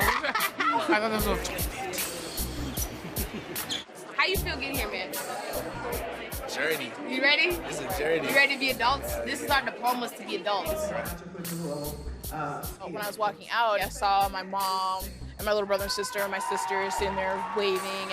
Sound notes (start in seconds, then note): 2.8 laughter